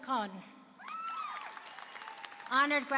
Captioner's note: applause and cheering